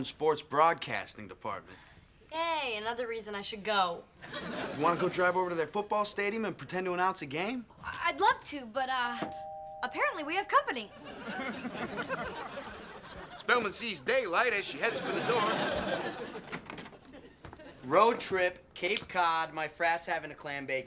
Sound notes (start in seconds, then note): 9.0 doorbell ringing